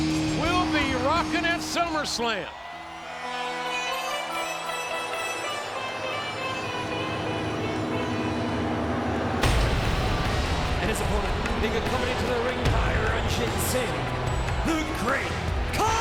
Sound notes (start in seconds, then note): 2.4 audience cheers; 9.9 upbeat music